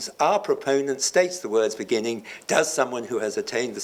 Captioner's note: none